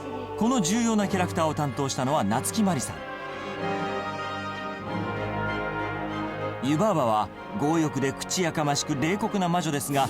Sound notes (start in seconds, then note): none